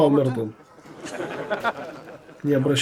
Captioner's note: laughter